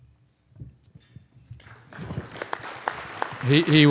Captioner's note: applause